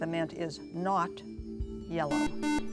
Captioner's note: beep